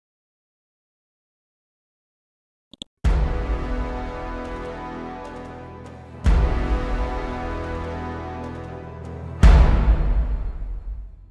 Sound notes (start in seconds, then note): 2.7 mouse clicks; 3.2 dramatic chord; 9.2 dramatic chord